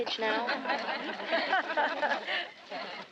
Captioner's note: laughter